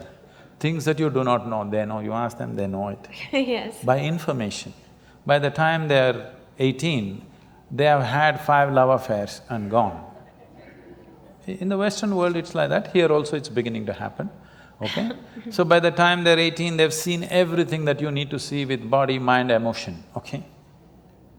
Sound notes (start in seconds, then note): 10.0 laughter